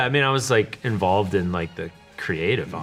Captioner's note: none